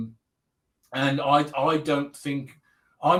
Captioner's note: abbreviated speech